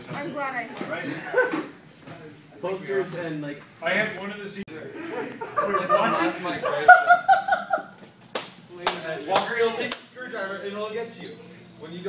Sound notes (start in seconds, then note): 8.3 clap clap clap